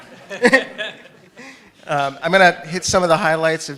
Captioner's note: laughter